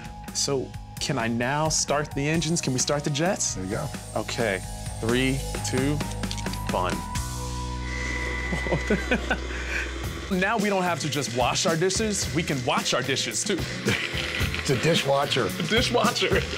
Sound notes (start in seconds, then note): 7.8 whirring; 8.3 laughing